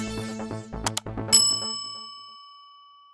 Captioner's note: mouse clicking; bell dinging